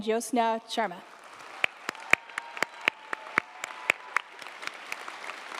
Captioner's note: audience applauding